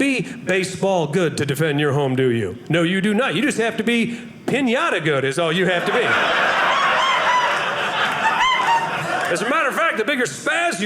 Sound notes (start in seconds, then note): 5.7 audience laughing